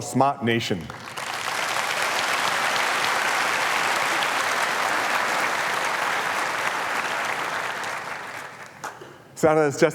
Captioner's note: applause